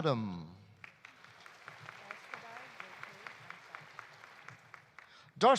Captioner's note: audience applauding